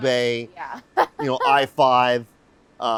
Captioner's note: laughing